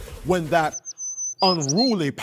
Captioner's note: bird chirping